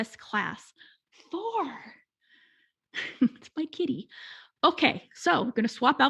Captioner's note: laughing